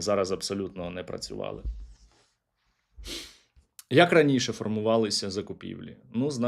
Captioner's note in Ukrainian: сопіння